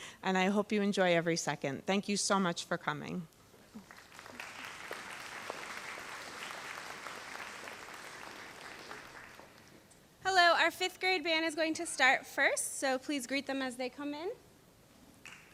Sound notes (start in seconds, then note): 3.7 audience applauds